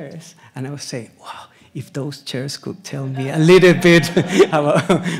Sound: laughs; audience laughs

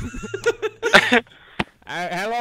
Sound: nervous laugh

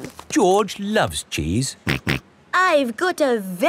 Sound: snorts

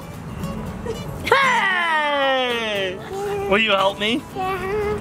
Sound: girl laughs

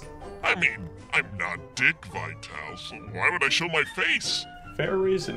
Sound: none

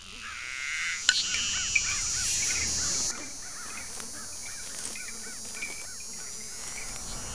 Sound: fly buzzing; cicada screeching; bones clanking

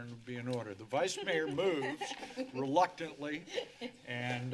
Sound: laughter

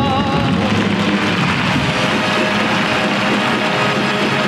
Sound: audience applauding

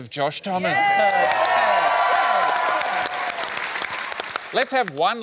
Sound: cheering, applause

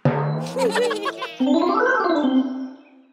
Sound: group laughs

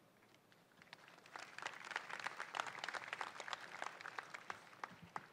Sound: crowd applauding

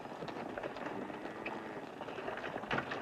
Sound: cattle lowing

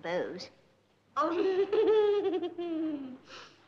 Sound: chuckles

